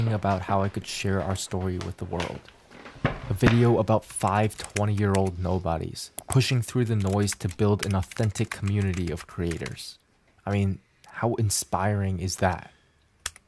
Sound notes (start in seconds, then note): 4.2 keyboard clacking